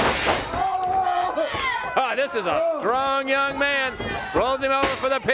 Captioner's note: crowd chatter